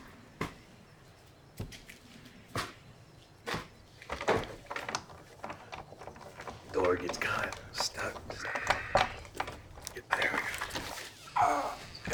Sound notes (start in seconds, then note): 4.0 doorknob rattles